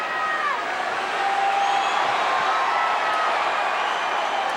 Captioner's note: crowd cheers